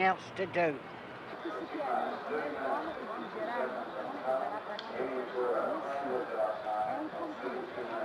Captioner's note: crowd chattering indistinctly